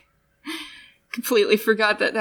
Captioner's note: laugh